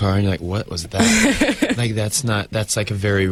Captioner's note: interviewer laughs